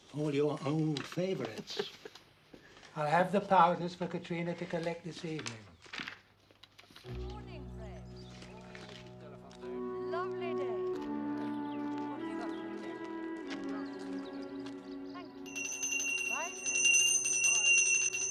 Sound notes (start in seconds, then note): 1.4 Tertawa; 15.4 Bel berbunyi